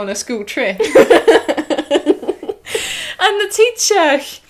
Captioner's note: laughter